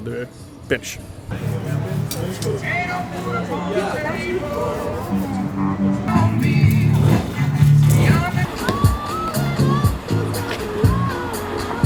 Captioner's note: city noise